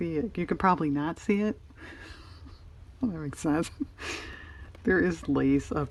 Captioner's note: laughs